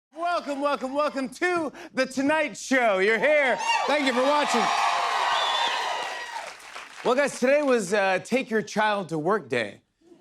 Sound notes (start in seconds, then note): 4.7 cheers and applause